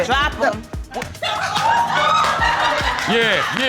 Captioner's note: audience laughing